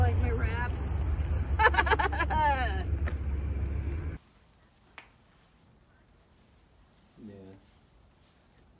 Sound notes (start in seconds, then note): 1.6 maniacal chuckle